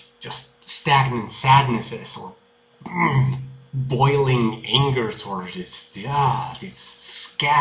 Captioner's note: urgh